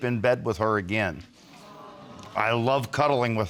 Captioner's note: audience sighing